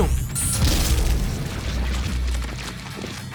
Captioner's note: mancibus explodes